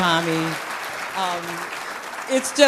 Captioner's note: applause